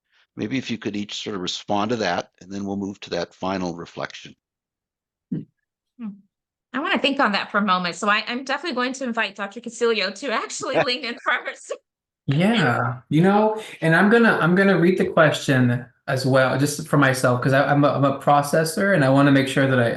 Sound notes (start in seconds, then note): 10.7 laughter